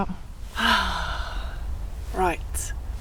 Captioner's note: sigh